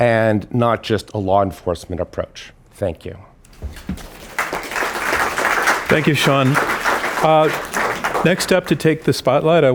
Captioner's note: applause